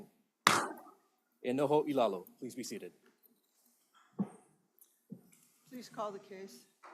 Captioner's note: gavel bangs once